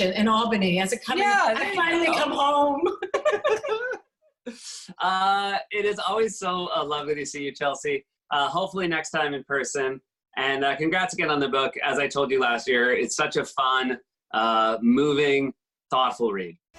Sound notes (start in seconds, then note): 1.5 both laugh